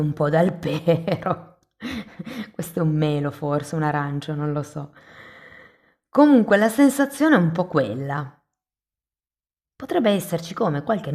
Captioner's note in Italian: risate